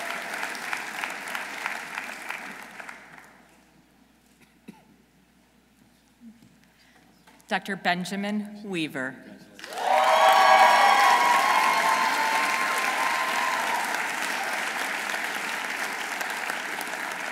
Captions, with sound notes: Dr. Benjamin Weaver. -(audience cheering) -(audience applauding)